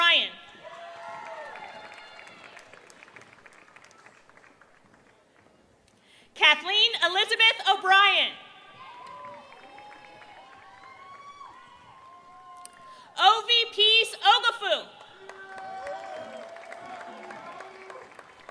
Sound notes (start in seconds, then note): 0.0 applause; 3.8 applause